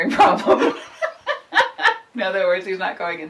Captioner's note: laughing